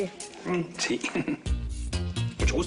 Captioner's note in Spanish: Ríe